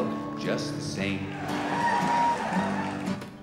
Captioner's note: crowd cheering